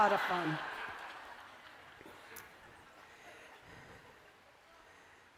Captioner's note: laughter